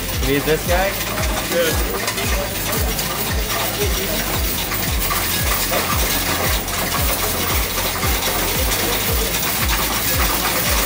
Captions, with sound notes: You need this guy? (coins rattling) (upbeat music)